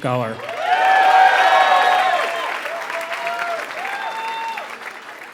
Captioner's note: applause